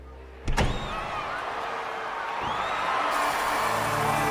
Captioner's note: sounds of rough crowd